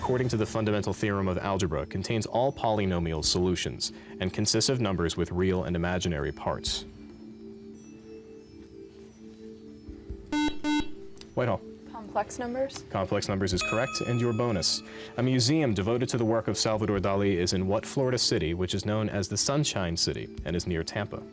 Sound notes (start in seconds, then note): 8.6 beep